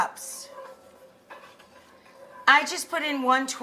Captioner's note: spoon scraping